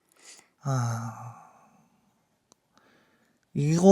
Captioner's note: sigh